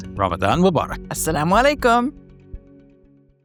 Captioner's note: speaks a foreign language